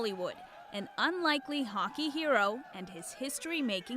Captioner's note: cheers and Applause